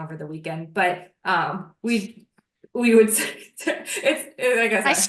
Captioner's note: laughs